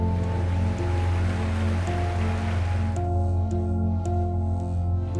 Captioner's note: audience applauding